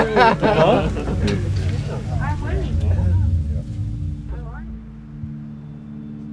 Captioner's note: group chattering